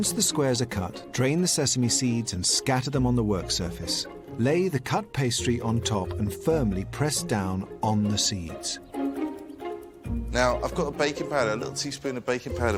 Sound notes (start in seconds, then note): none